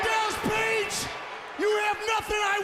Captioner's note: crowd chatter